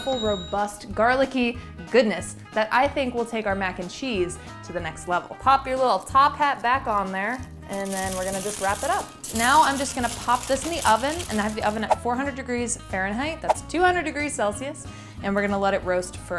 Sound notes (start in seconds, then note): 0.0 cash register chimes; 8.8 aluminum crinkles